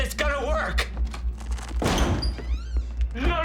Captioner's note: door opening